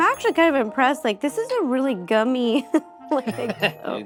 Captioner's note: laughing